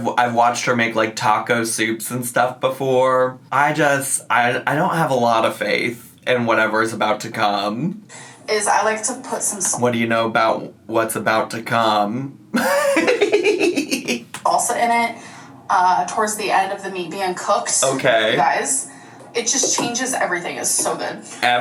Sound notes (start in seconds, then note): 12.5 laughs